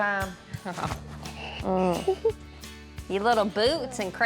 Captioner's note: chuckling